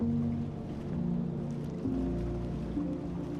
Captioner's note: wind howling